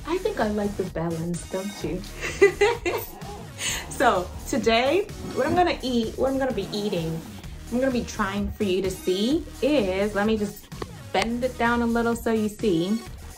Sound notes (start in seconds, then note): 4.4 floor squeaks